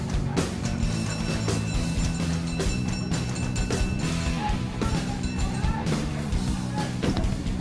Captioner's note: bell sounds in background